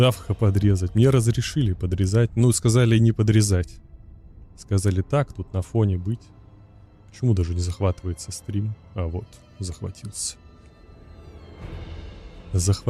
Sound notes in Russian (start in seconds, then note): none